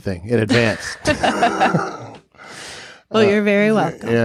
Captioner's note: both chuckling